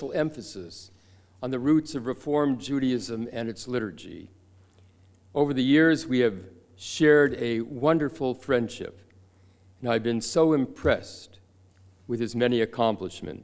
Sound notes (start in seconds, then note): none